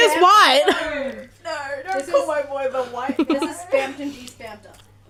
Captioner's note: anguished